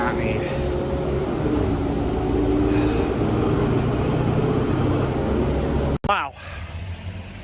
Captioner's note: cathes her breath